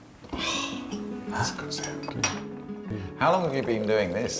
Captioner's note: exhales